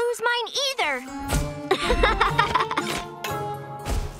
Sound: laughing

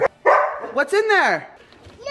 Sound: dog barking

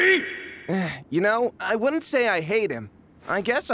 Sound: sigh

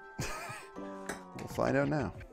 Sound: laughs

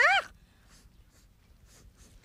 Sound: sniffing

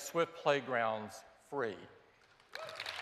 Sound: applause

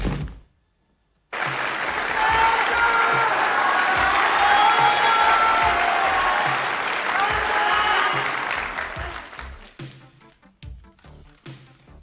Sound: applause

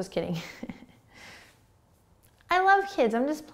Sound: laughing

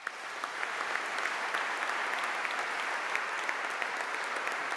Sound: audience applauding

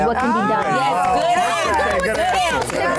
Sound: all clapping

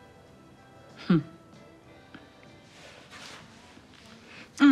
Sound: Jada scoffing

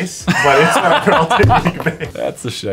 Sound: laughter

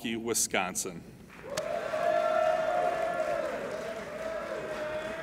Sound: applauding and cheering

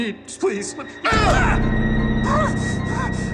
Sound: grunts

